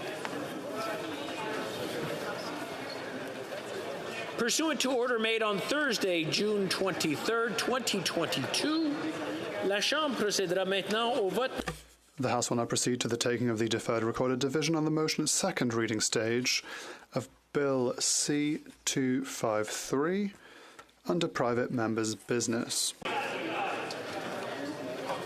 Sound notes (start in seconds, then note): 14.1 speaking French